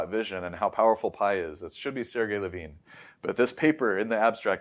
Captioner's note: inhales